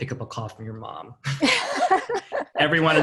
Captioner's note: all laughing